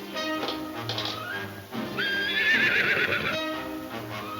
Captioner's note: horse whinnying